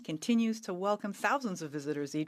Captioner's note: speaking French